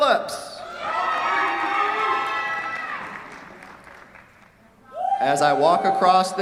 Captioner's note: cheers, applause